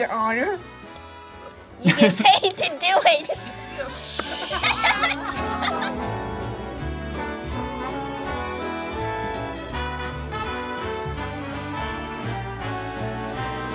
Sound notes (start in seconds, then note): 4.0 everyone laughs; 7.2 playful music continues